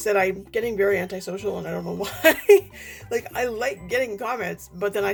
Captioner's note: laughs